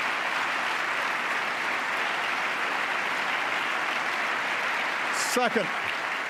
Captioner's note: applause